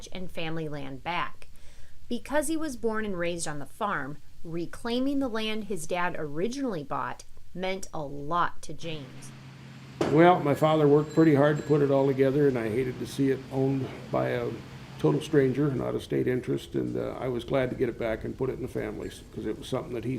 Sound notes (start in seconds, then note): 9.3 machine whirring